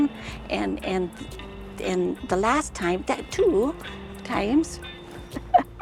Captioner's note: laughs